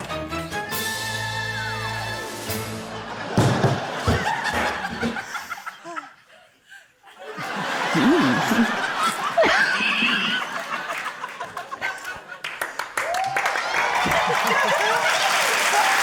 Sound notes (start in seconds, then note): 0.1 dramatic musical flourish; 3.4 thud!; 7.3 laughter; 13.8 cheering, applause